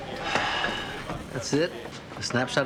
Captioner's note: sighs